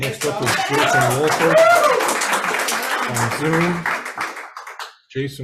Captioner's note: audience applauds